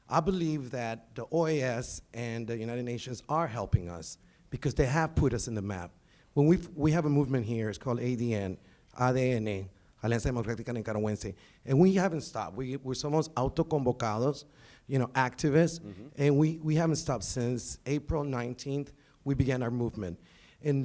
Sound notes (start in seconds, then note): 8.9 speaking in foreign language